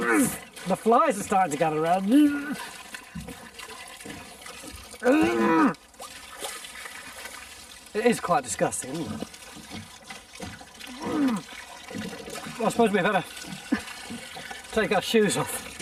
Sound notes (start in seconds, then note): 0.3 retching; 11.6 retching